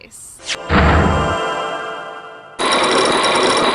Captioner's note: magical hum, pound!; chains grinding!